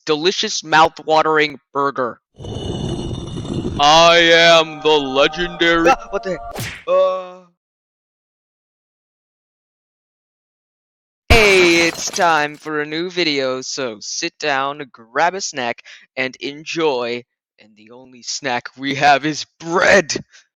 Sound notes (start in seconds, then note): 6.5 slap; 11.3 wall crash